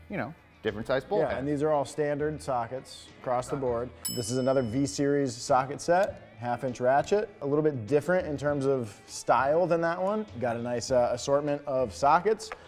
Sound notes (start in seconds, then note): 4.0 bell dings